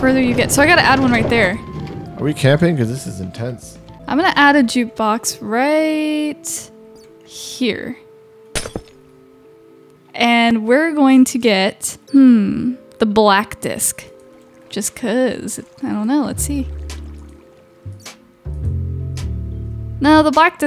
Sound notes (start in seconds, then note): 8.5 glass shattering; 18.4 calm blues music